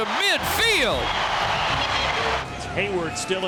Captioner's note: crowd cheers